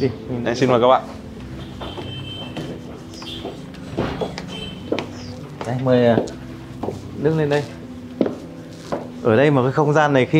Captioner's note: footsteps